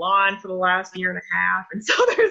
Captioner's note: laughs